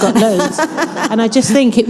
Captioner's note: all laughing